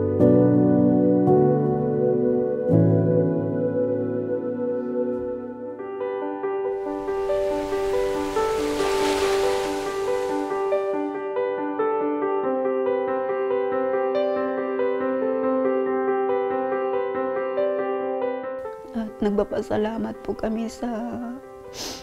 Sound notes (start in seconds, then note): 0.1 poignant piano music; 6.7 waves breaking on the shore